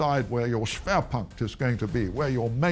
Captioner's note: speaking in foreign language